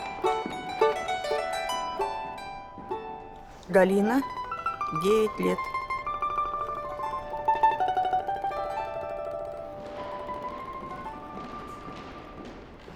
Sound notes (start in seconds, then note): 0.0 cheerful music; 3.5 the woman speaks in russian; 4.6 cheerful music